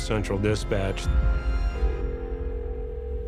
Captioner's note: phone ringing